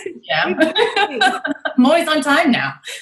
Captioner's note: laughs together